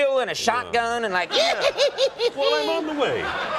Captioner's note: laughter